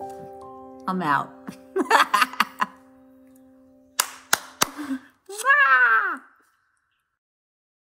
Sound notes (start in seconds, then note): 1.7 laughs; 4.0 claps